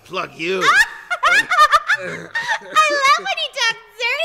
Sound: Harley laughing

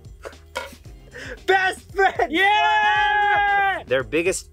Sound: shouts

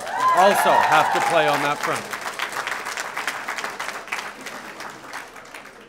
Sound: applause

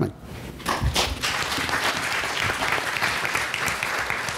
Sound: applause

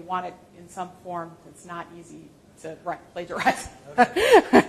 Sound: laughs

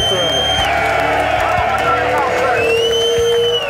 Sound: cheers

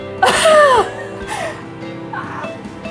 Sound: laughing

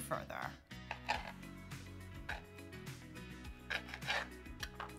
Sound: knife scraping

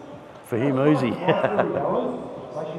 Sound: laughing

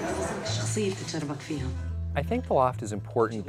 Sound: female movie character speaking foreign language

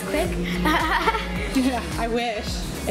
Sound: laughs

